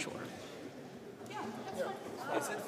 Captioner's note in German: Stimmengewirr